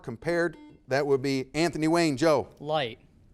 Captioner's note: buzzer beeping